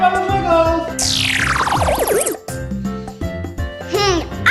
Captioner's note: beeping